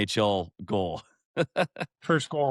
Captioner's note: laughs